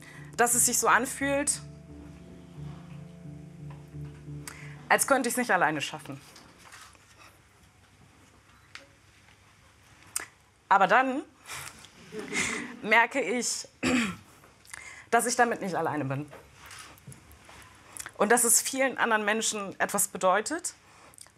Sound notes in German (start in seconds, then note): 13.8 Räuspern